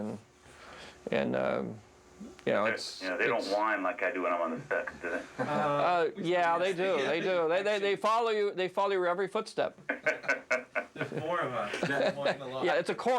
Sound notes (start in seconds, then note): 6.7 laughing